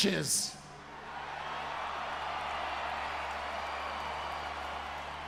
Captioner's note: crowd cheers